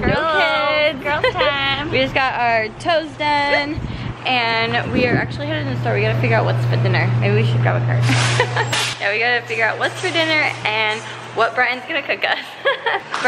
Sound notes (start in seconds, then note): 8.3 laugh